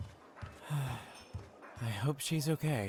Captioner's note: sighs